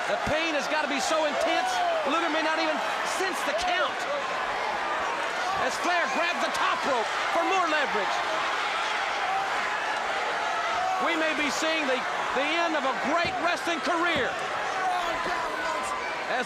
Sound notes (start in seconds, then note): 8.6 crowd cheering